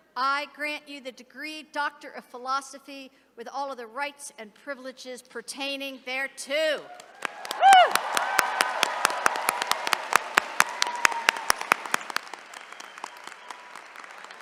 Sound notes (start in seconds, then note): 6.9 attendees cheering